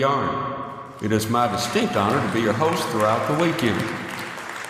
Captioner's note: applause